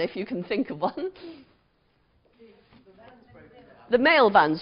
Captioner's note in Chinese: 無聲